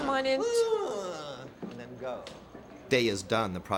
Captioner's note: whinnies